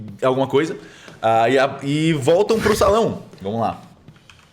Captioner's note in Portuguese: risadas